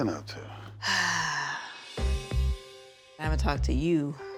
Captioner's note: sighs